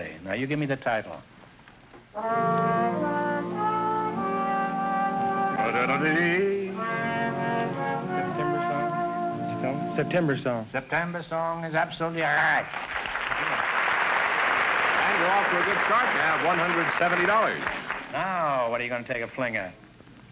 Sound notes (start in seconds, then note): 8.2 whispering; 12.5 applause